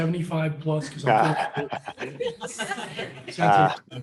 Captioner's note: laughter